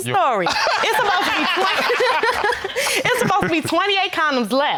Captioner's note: all laughing